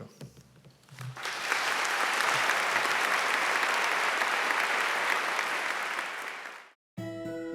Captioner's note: applause